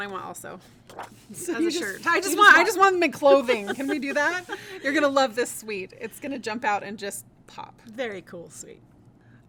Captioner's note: laughing